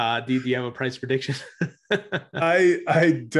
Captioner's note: laughs